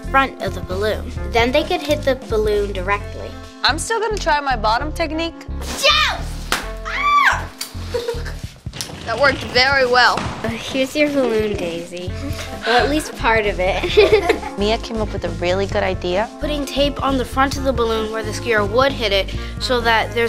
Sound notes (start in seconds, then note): 6.8 screams